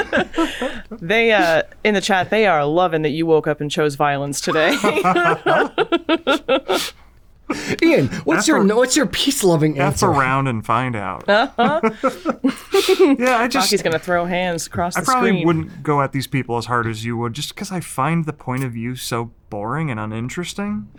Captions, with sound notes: In the chat, they are loving that you woke up and chose violence today. [all laugh] Ian, what's your peace-loving answer? F around and find out. Rocky's gonna throw hands across the screen. I probably wouldn't go at these people as hard as you would, just because I find the point of view so boring and uninteresting.